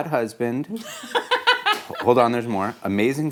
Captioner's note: laughs